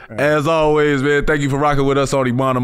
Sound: chuckles

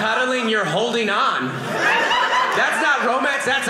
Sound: audience laughing

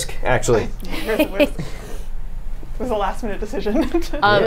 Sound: Safiya laughs; laughs

